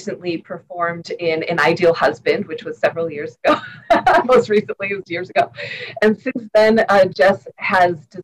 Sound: laughter

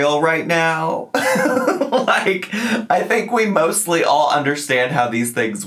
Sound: laughing

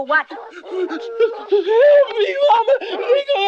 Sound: dog barking nearby

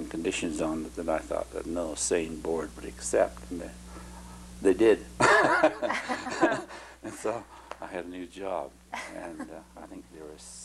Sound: laughter

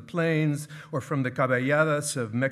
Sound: speaking in foreign language

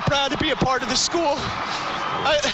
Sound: cheers

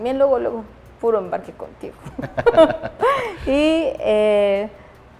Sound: laughs

